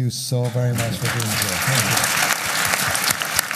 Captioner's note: applause